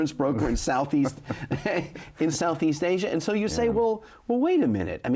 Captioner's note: chuckles